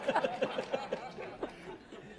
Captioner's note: laugh